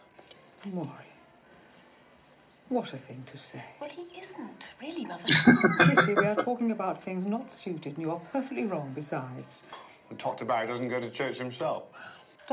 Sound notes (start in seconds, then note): 5.2 laughing